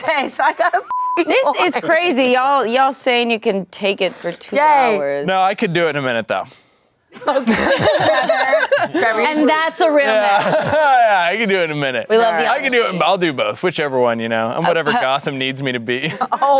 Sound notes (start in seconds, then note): 0.9 beep; 7.2 everyone laughs